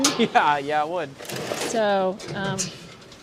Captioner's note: laughs